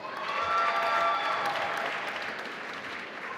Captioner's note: applause